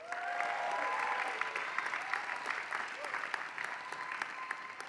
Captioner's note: applause